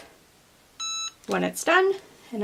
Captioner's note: press beeps